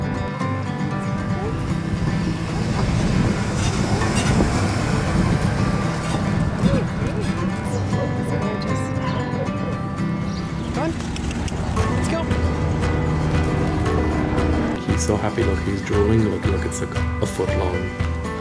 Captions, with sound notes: Alright. He's gorgeous. Come on [Tongue clicks] let's go. He's so happy, look he's drooling look, look, it's like, a foot long.